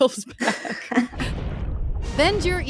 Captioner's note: laughing